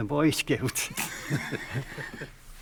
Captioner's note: laughing